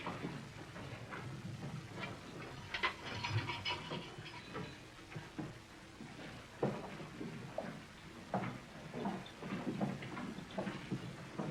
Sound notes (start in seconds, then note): none